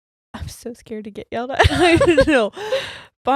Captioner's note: both laughing